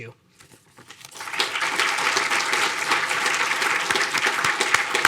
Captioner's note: audience applauding